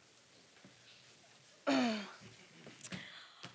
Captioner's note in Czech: odkašlání